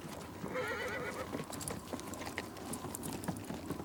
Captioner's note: wind whistles; horse neighs